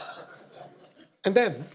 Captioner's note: audience laughter